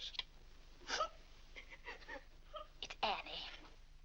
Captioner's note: Annie weeps